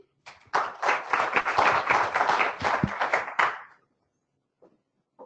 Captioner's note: applause